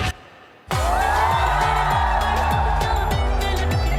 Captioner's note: crowd cheering